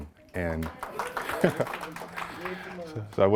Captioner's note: applause